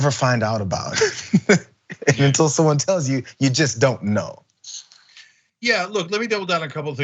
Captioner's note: laugh